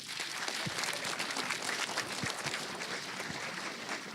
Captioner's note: applause